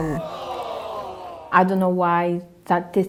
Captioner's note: crowd